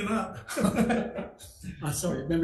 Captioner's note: group laughs